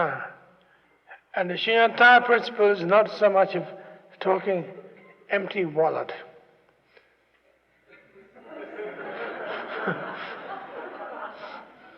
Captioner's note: laughter